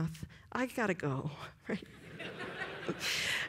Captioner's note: laughter